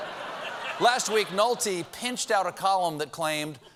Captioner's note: laughter